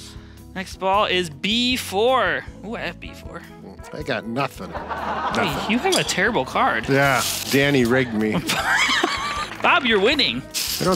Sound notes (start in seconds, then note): 8.3 laughing